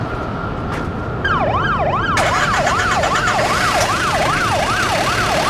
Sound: sirens

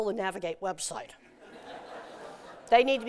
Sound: laughter

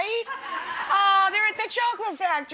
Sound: audience laughing

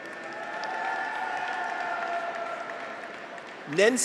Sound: audience applauds; graduates cheer

